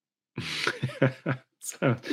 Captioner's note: laughs